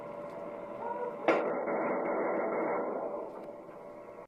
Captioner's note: gunshots